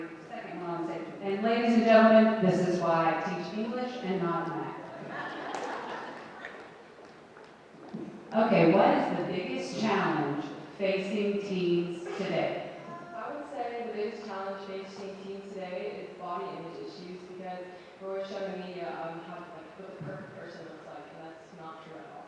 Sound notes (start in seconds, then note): 4.9 audience laughing